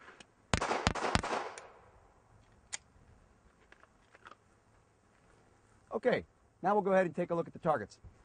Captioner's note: gunshots